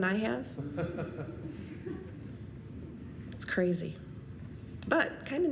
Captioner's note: audience laughing